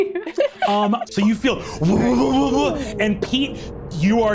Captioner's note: Siobhan laughs; imitates energy quavering